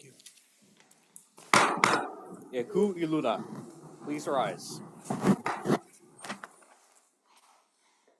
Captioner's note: gavel bangs twice